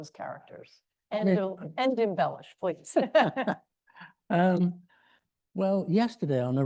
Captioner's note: laughs